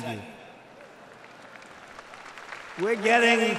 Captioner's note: applause